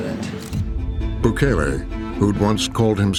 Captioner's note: camera shutter clicks